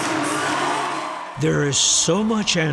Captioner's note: cheering